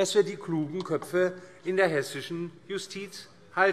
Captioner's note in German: none